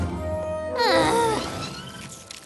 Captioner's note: groan